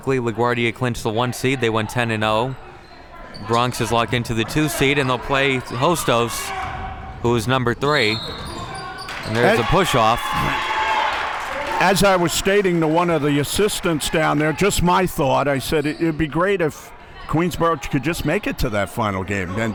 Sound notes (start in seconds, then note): 8.1 whistle blows; 8.9 audience cheering